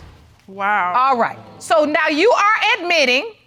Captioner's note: audience exclaims